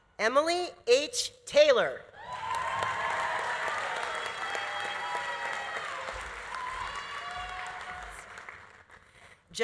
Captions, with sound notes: Emily H. Taylor. (audience applauding) (audience cheering)